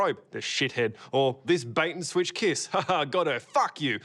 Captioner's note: chuckles